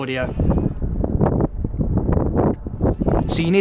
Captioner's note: wind distortion sound